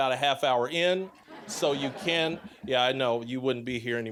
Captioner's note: audience laughing